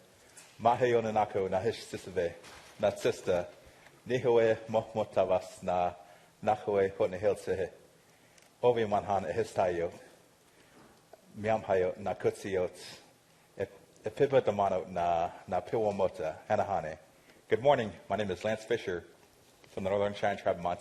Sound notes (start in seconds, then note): 3.1 speaking non-english